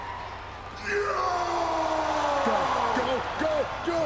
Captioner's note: Strowman yelling